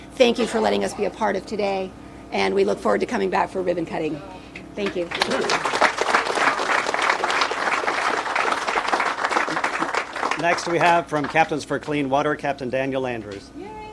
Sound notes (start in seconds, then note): 5.0 people applauding